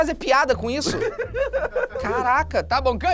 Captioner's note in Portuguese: risadas